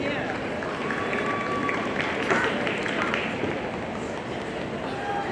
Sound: audience applauding

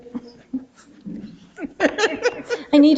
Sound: people chuckle

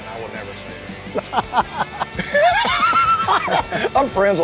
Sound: both laughing

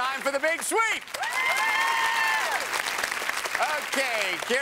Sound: cheers and applause

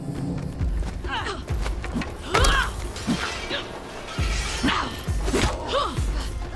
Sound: fighting grunts and shouts

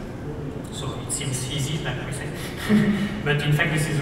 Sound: laughs

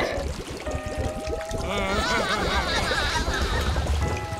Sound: giggling

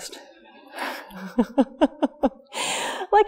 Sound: more stabbing chuckles

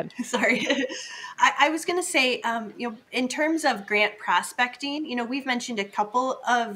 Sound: laughs

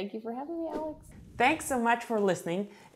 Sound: air whooshing

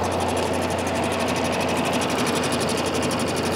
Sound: wind howls

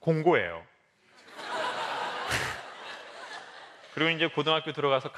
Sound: laugh

